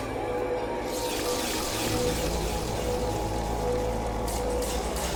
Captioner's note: slicing noises